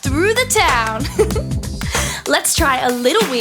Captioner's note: narrator giggling